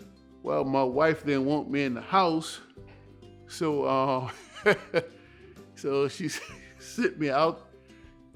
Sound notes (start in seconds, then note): 4.2 chuckles